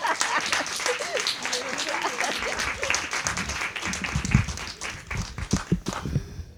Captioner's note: applause